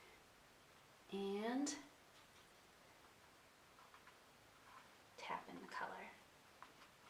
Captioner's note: paintbrush scratching